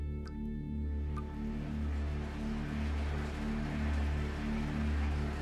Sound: running water

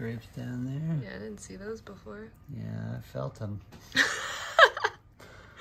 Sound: laughs

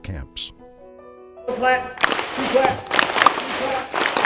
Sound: claps; three claps; two claps

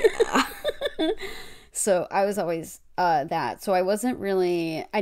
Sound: laughs

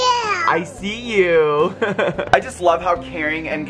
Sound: giggles

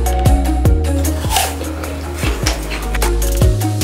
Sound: munching crunching

